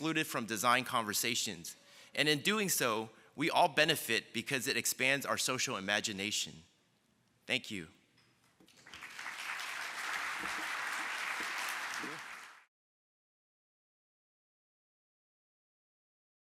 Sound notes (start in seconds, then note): 8.7 applause